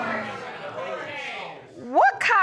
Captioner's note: audience exclaiming